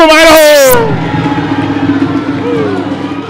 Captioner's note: applause